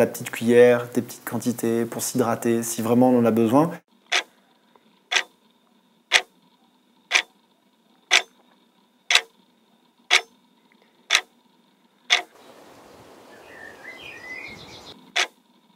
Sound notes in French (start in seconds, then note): 8.0 tic tac, bruit horloge; 12.3 chants d'oiseaux